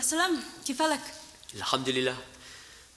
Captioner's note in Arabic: بالعربية